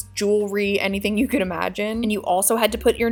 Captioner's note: chuckling